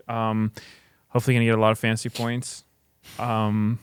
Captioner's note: laughs